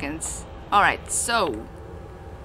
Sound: ship creak 02

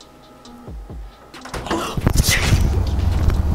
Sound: door clicks; whispers; faint thuds; suspenseful music

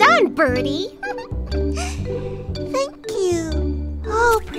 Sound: giggles

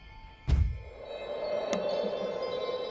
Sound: poof

